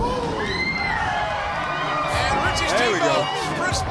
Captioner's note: crowd cheering